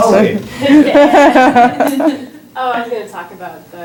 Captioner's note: laughter